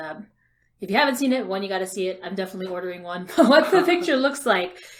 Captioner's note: laughs